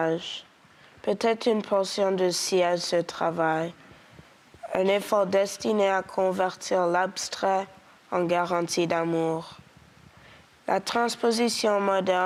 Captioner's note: speaking French